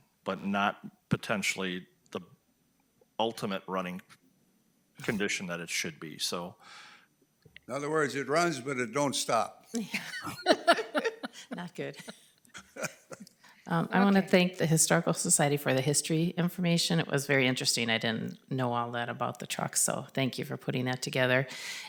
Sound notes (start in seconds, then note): 9.7 board members laugh